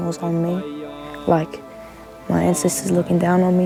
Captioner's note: man chanting in Māori